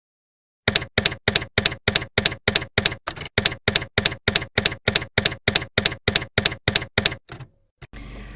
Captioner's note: typewriter keys clacking